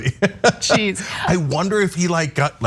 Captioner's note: laugh